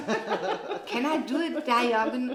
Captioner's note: laughing